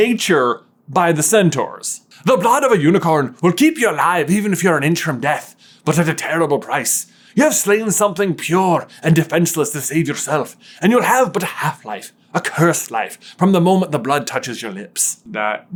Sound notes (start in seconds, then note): 2.0 Scottish accent